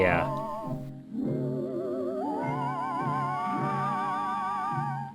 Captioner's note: birds singing mournfully